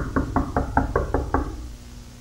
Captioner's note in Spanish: Toc Toc Toc